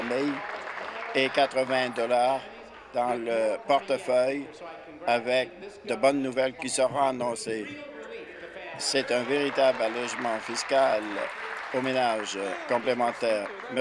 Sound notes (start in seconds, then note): 2.1 applause; 13.1 applause